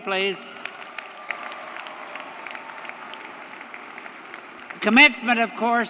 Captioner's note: audience applauding; audience cheering